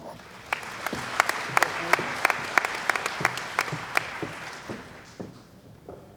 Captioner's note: applause